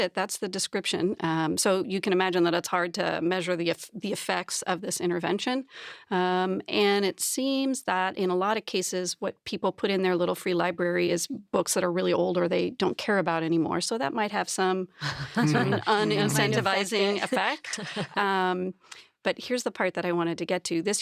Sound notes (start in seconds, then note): 18.5 chuckles